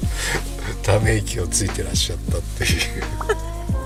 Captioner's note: laughs